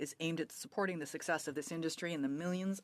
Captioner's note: speaking French